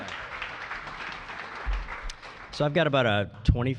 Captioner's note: applause